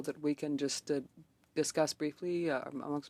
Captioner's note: speaking French